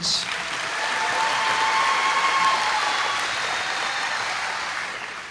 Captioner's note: applause